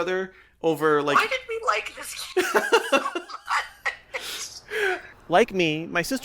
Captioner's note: laughter